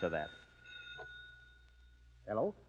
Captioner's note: bell ringing